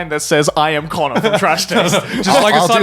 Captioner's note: laughing